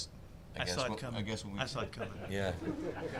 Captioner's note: all laughing loudly